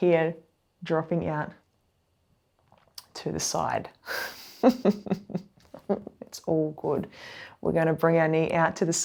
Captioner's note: laughs